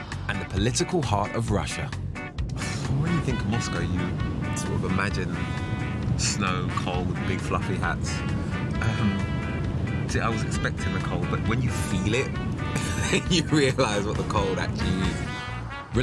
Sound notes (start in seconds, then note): 12.7 laughs